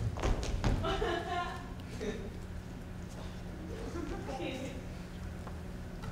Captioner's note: audience members laugh